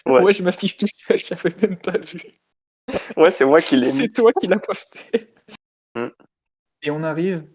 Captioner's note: laugh